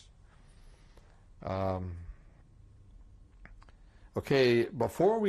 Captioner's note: pauses for 3 seconds